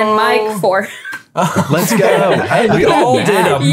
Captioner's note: everyone chuckling